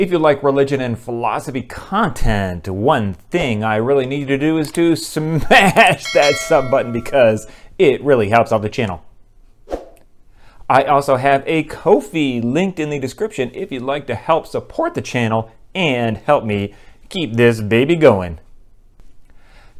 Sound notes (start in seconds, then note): 6.0 bell ringing